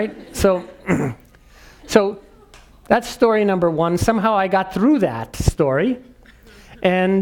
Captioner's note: cough